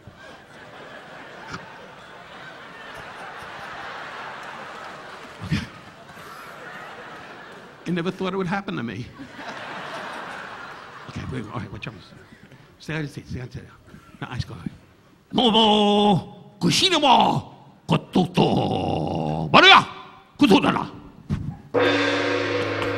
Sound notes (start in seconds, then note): 0.0 audience laughing; 0.2 Don laughing; 9.0 audience laughing; 11.1 Don speaking in Japanese; 21.7 dramatic instrumental music